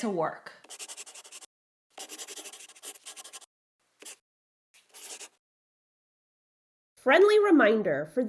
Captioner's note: the sound of a pen scratching. LOGO